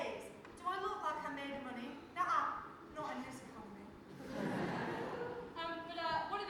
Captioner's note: audience laughs